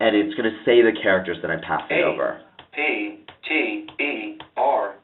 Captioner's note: computer speaking